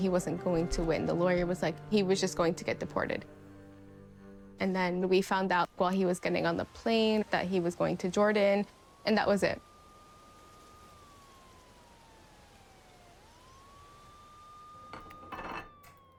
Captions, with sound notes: The lawyer was like, he was just going to get deported. And then we found out while he was getting on the plane that he was going to Jordan. And that was it. [SIRENS WAILING]